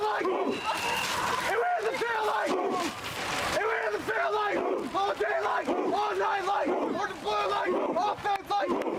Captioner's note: screaming